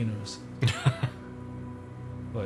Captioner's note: Anders laughs